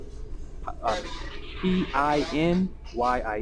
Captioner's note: mandarin